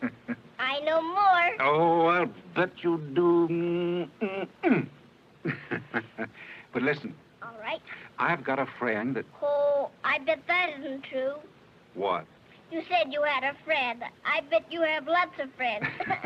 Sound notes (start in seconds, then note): 3.8 laughing